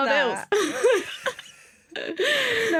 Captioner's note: laughter